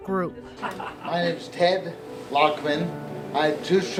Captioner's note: background laughter